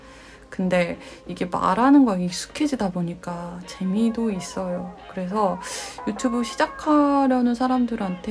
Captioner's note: laughs